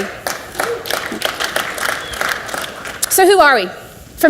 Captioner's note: audience applauds